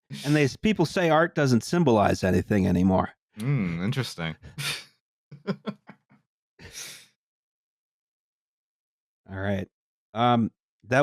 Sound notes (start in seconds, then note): 5.4 quiet laughter